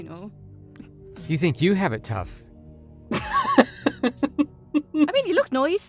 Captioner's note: giggles